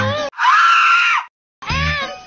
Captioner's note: Tom screaming sound